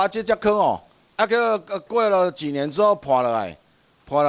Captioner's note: minnan dialect